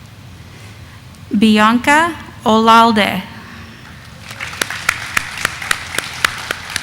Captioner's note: audience applauding